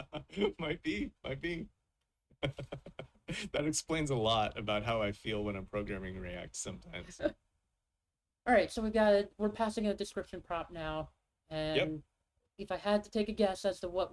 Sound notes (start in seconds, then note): 2.3 chuckles; 2.4 laughs